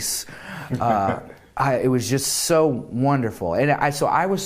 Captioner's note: laughter